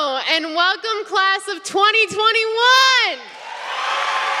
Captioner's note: applause